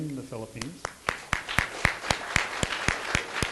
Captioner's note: clapping